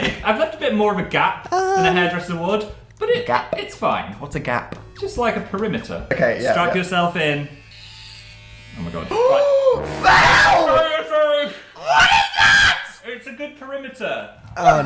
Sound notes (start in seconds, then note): 11.5 gasp